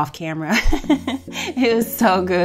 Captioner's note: laughs